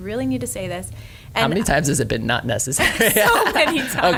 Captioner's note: laughs